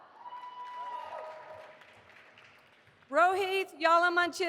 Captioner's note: audience applauding